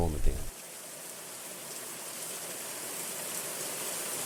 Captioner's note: rain patters